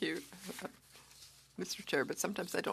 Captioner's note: speaking French